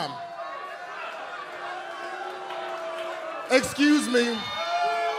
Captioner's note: crowd chatter